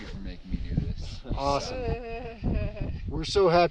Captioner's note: laughs